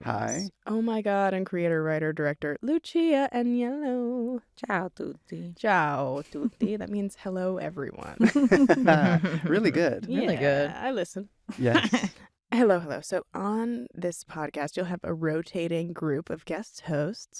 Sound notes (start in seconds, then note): 8.2 laughter